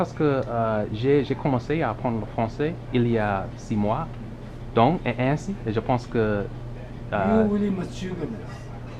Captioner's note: french